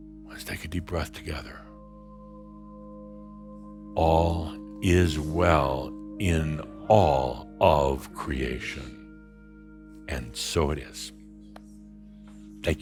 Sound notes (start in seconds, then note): 4.0 audience and Adamus say it together